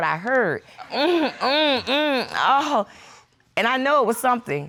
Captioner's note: imitating moaning